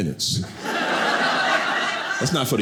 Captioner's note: audience laughing